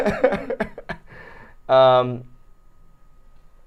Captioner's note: laughing